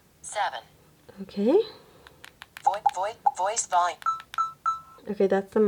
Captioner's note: beep, beep, beep